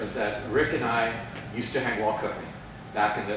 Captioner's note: none